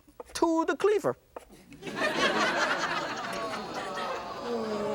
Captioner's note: laughter and sighs